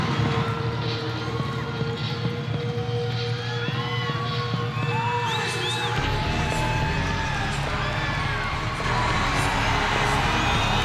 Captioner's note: crowd chatter